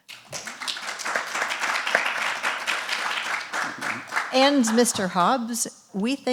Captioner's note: audience applause